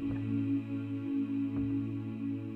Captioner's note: humming